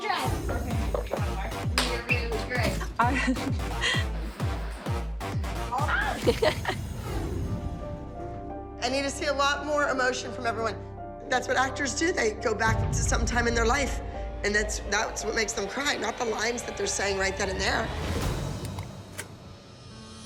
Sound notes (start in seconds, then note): 2.6 chuckles; 5.5 gasps; 5.8 giggles